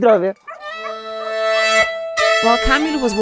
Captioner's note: dogs barking; upbeat music